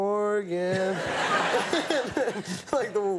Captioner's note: audience laughing